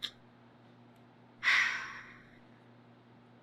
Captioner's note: sighs